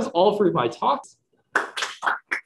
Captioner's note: audience applauds